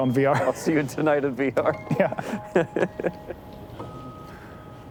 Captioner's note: laughs; gentle music